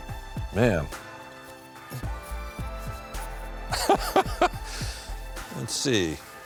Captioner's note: laughing